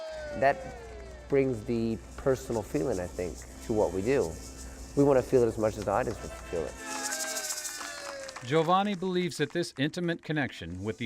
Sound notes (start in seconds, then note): 6.9 clapping